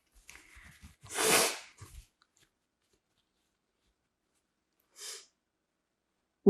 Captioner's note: wiping nose; sniffling